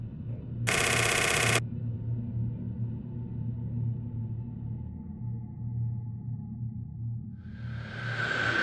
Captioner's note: static